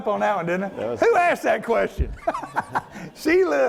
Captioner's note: laughs